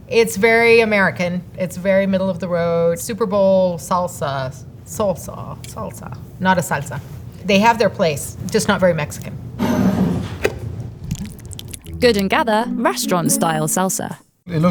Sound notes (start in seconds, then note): 9.9 jar sliding; 10.0 lid opening; 10.8 salsa pouring